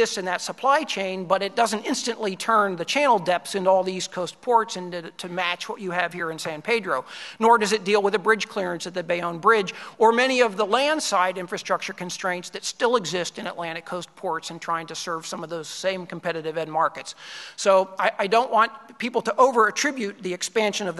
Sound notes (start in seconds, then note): none